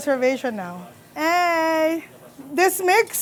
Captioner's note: staff chatter